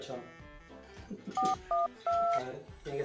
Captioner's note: laughs; phone dialing